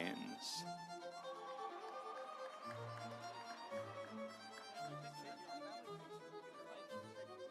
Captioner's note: instrumental music; audience applauding